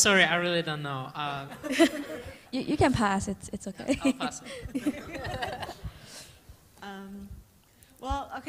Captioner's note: laughter